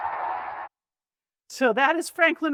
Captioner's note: audience applauding and cheering